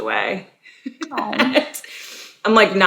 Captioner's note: laughs